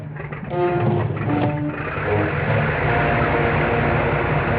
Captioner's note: plane whirring; dramatic music